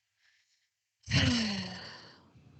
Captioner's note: heavy sigh